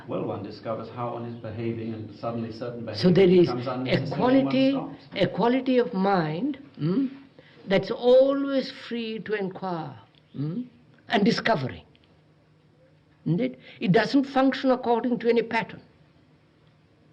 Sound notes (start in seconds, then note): none